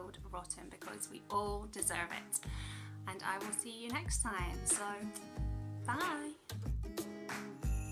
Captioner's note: kiss